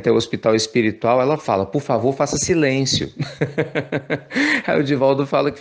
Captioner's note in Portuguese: risos